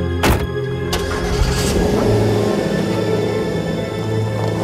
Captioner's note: engine rumbling